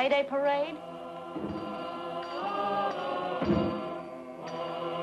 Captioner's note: people chanting